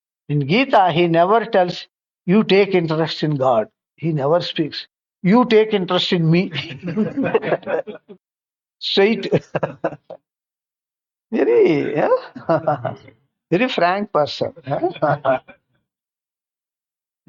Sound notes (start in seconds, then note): 6.8 laughs